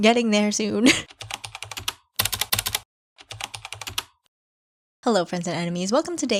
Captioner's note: typing